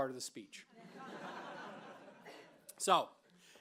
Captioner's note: laughter